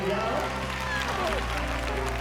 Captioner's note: cheers and applause